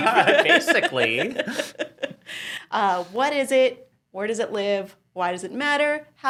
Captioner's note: laughs